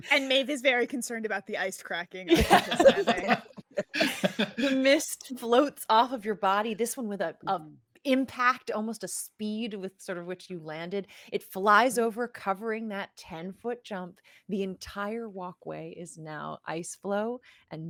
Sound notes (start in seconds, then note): 2.3 all laughing